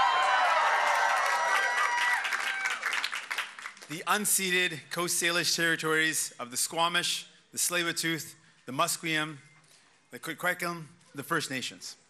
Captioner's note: cheers and applause